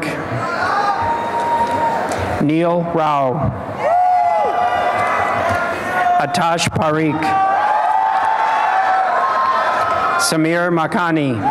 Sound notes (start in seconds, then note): 0.9 applause and cheering; 7.3 applause and cheering